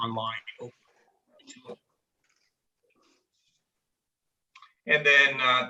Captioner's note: indistinct conversation